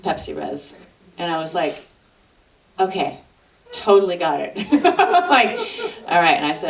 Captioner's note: laughs